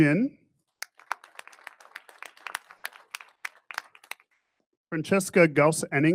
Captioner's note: audience applauding